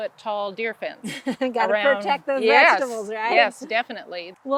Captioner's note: laughs